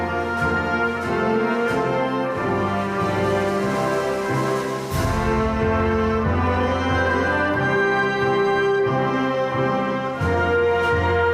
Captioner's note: applause continuing